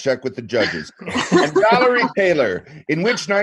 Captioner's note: laughing